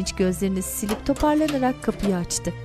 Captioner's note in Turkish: Kapı açılma sesi